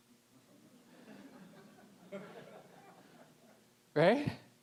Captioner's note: audience chuckling